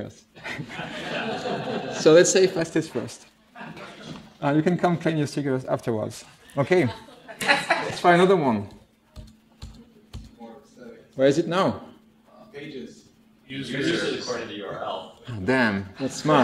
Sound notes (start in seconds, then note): 0.4 laughter; 9.1 keyboard press noises